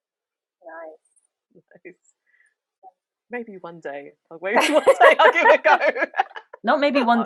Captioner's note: giggle